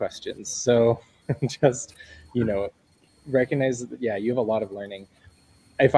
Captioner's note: laughter